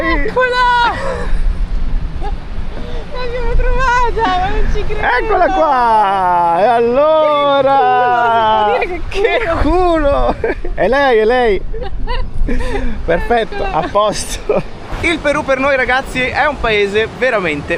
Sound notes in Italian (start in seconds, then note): 11.4 risate